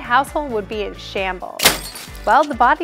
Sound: breaking glass

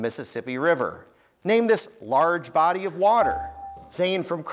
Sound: buzzer beeps

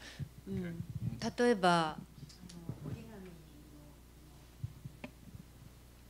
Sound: non-english speech

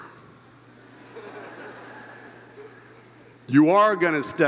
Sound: all laughing

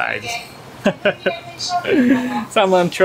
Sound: laugh

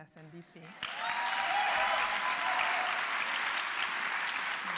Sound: audience cheering

